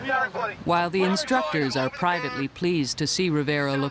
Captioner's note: voiceover